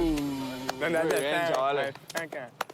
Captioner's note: applause